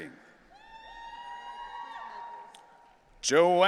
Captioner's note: audience cheering